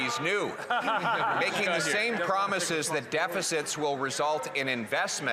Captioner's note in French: voix de l'interprète